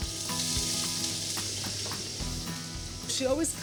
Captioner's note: sizzling sound